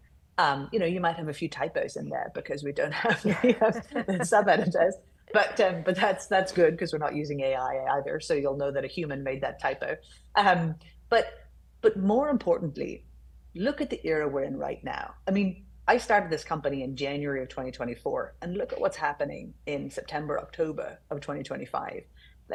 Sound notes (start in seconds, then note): 3.0 laughing